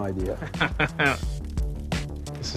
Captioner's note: chuckles